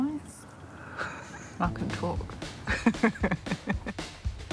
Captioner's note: laughs